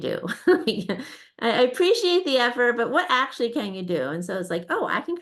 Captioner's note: laughs